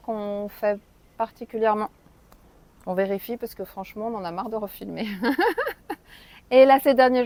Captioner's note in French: rires